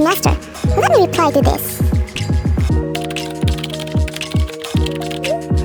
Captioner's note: typing sound